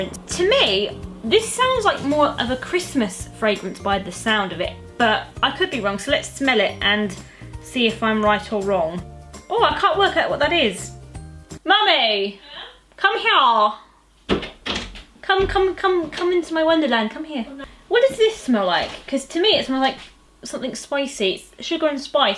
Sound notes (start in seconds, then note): 14.3 door opens